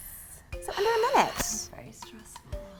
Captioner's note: sighs heavily